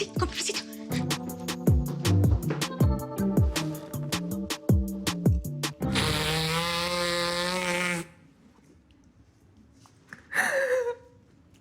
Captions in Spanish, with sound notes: CON PERMISITO. [Ruido al soplarse la nariz] [Sollozos]